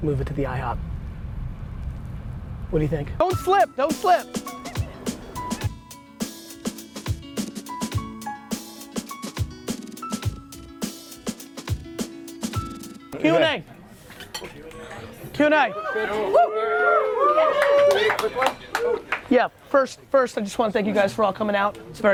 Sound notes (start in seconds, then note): 15.6 crowd cheers